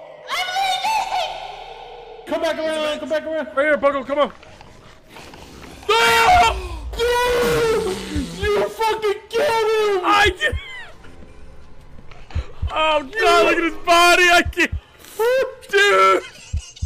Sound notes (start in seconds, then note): 5.7 yells; 5.8 screams; 6.3 gasps; 15.8 laughs; 16.0 sobs